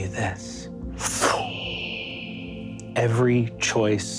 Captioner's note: mimics air whooshing